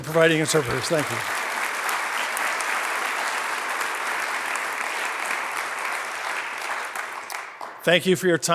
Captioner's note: applause